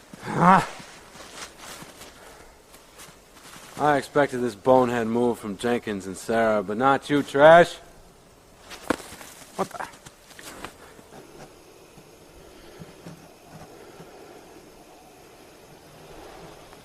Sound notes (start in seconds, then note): 0.2 grunt; 8.6 snowball hits